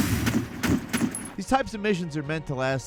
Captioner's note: guns firing